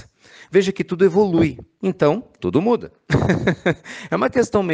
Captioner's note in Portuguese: risos